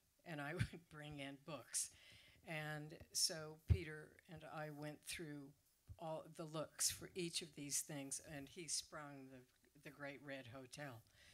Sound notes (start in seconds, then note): none